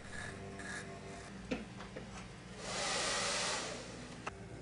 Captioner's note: hair dryer whoosh